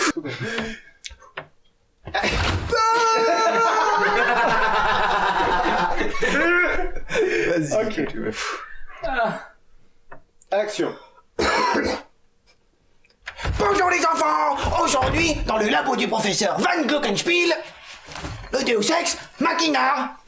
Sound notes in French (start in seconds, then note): 3.0 Rires; 7.7 Soupir